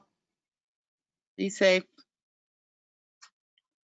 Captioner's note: voiceover